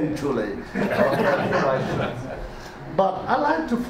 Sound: audience laughter drowns out

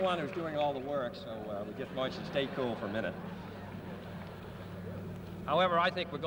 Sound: laughter

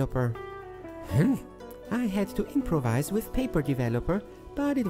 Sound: grunt

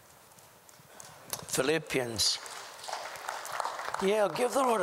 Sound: applause

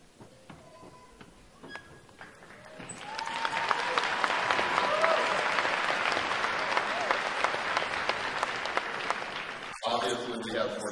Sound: applause

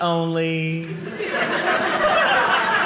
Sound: audience laughing

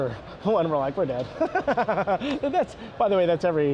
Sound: laughs

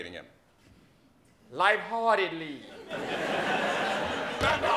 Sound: laughter

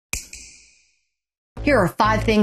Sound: snap

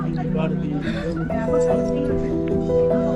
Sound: laughs

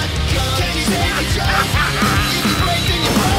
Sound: insane laughter

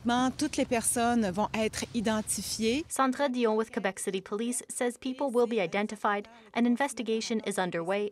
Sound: speaking French

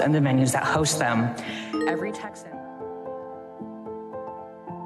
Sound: phone alert dings

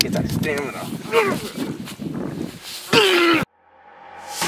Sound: grunts

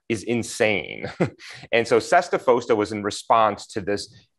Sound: laughter

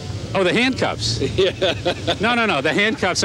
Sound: laughing

